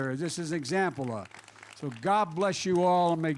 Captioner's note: applause